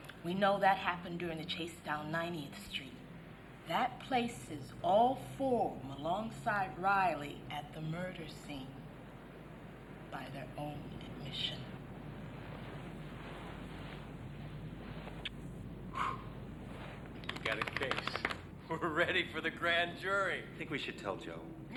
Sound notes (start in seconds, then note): 15.3 Ed's lips smacking; 15.5 Ed blows